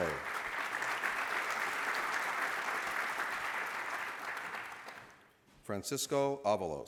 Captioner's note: applause